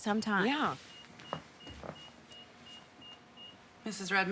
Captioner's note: machine beeping